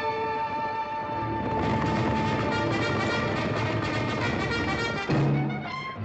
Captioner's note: cavalry bugle; hooves pounding